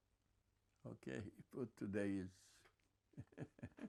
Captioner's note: laughing